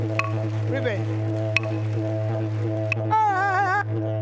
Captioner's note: audience applauds; sings in native language